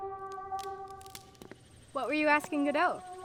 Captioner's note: branch snaps